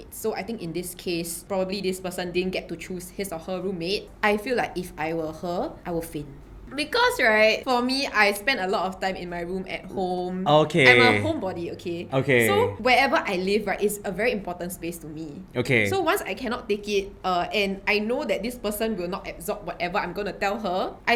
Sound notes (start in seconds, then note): none